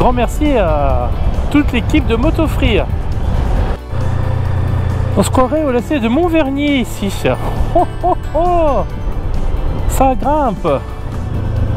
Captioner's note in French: rire